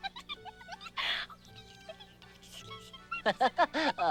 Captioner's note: giggling; whispering